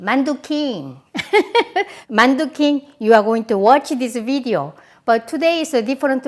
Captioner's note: laughs